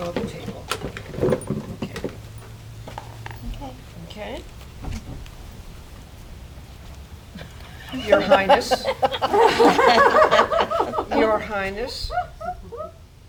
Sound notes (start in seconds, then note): 7.8 laughter